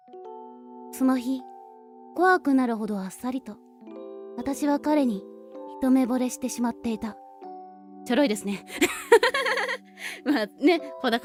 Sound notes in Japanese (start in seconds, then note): 8.9 笑い